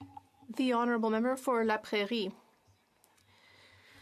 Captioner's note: speaking French